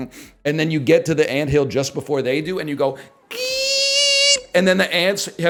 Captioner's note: mimics a car tire screech